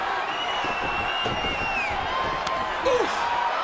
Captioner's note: audience cheering